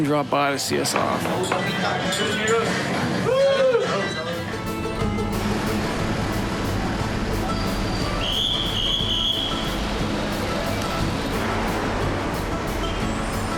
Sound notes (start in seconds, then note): 5.7 speaking In Foreign Language